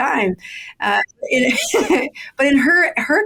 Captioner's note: laughing